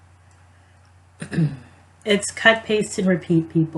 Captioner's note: clears throat